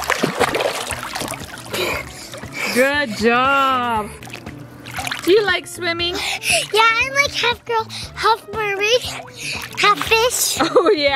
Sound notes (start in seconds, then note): 0.1 splashing; 1.7 heavy breathing